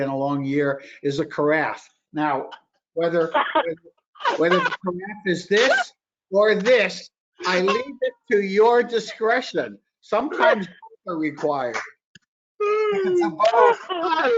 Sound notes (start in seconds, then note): 4.2 laughs; 13.3 laughter